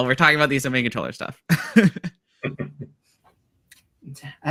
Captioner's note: laughs